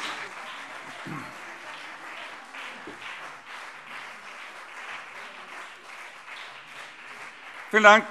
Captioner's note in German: Beifall BÜNDNIS 90/DIE GRÜNEN und CDU